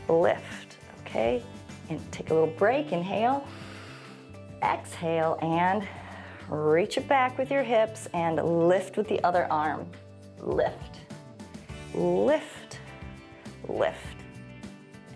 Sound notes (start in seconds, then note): 3.4 inhales; 3.4 exhales